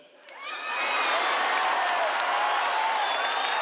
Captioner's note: crowd cheers